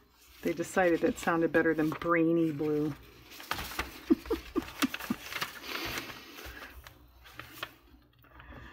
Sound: laughs

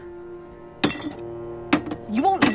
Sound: beer clanking

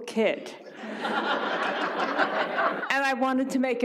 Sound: audience laughs

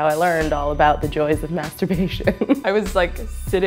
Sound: laughs

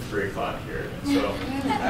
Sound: laughter

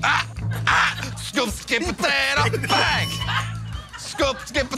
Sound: ding

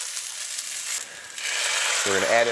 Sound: liquid sizzling

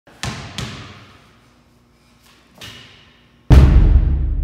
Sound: basketball bounces

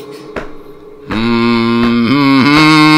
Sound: humming

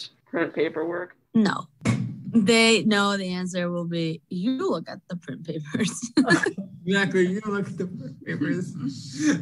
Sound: laughs

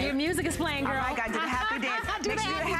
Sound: laughter

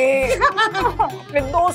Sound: laughing

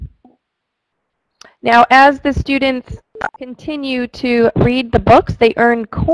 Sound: voiceover

